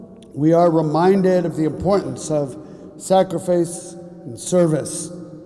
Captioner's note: none